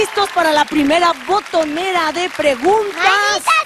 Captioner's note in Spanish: aplausos